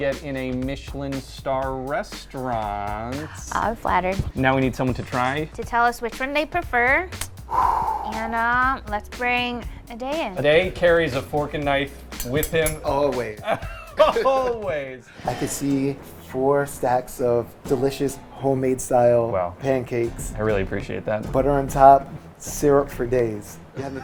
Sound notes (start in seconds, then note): 7.4 hard exhaling; 13.4 laughing